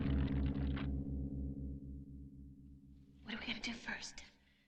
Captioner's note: stone crunching